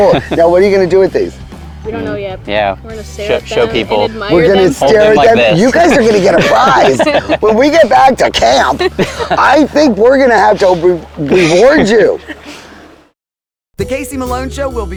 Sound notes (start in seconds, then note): 7.7 both laughing